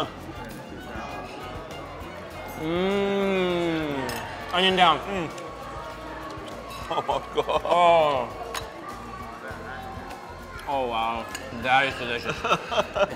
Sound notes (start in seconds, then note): 0.1 grunts; 2.6 moans; 6.6 laughing; 12.3 laughing